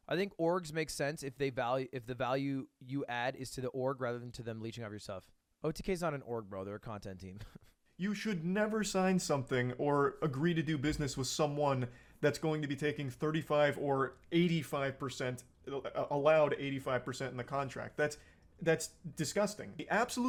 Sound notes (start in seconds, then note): 7.3 chuckle